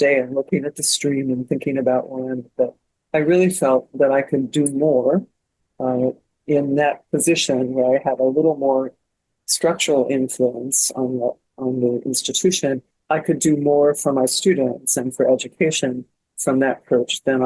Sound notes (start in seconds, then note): none